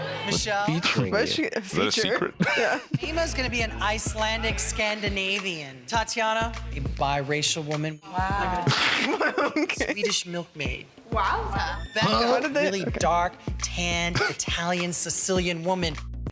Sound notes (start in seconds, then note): 8.4 laughing